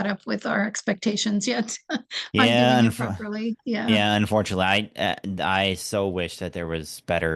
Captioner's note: laugh